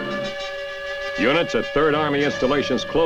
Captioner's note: whistle blows